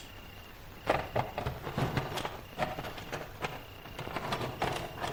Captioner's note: tools rustling